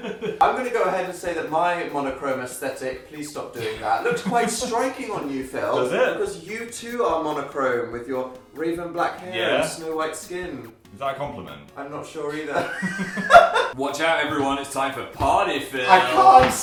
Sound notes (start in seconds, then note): 12.3 laughter